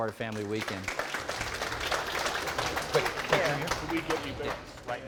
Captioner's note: audience applause